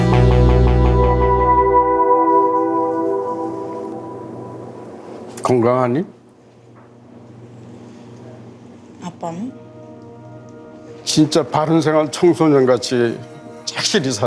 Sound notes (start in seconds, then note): 0.0 intense music; 5.6 speaking Korean